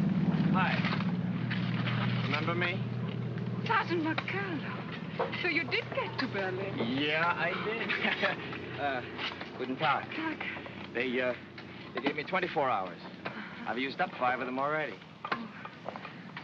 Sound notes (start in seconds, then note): 0.0 sound of shoveling; 7.6 chuckles